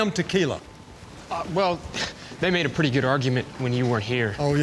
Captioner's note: clears throat